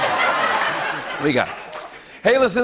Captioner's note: laughter and applause